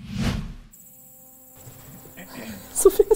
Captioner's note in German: Sausendes Geräusch; Insektengeräusche; lachend